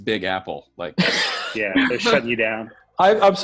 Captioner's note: laughing